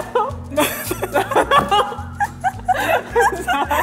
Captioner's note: laughter; laughs